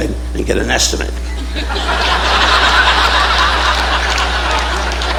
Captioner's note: audience laughing